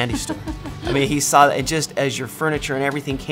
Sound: laughs

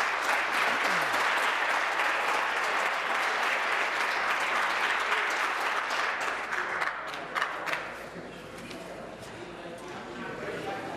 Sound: applause

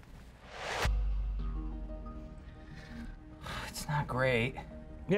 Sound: whoosh

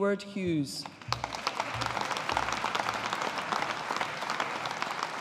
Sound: audience applauding

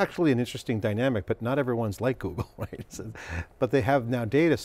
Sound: chuckling

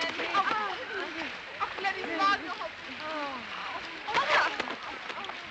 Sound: women groaning

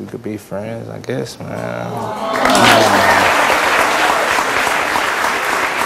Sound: audience awws and applauds

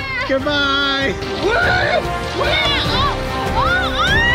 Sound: yelling; yelling

